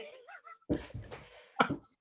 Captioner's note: laughs